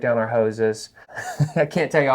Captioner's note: laughing